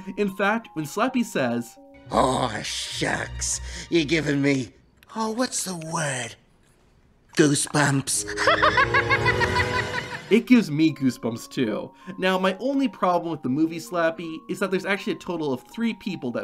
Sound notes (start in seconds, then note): 8.2 laughs maniacally